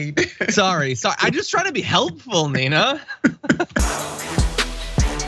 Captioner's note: laugh